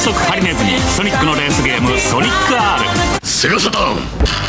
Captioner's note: japanese announcer